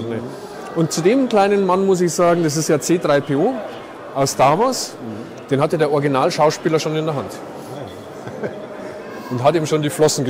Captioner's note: laughs